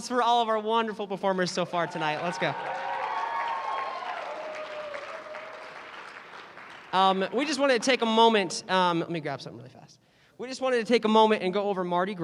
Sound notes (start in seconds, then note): 1.7 cheering; 4.1 applause